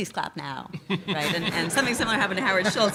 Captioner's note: laughs